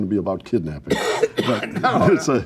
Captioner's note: coughs